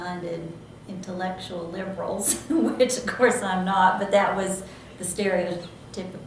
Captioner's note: laughs